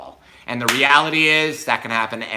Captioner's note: hands slap